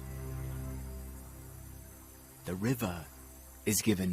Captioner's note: solemn music; birds chirping